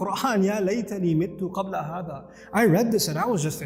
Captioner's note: Arabic